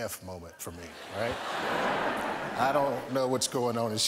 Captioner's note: laughter